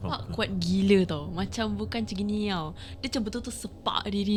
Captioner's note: patting